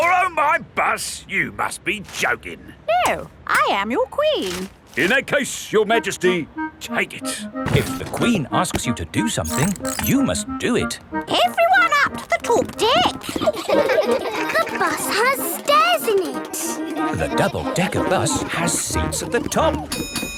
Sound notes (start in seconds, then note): 13.7 kids laughing; 19.9 bell dings